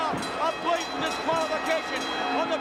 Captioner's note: ring bell clanging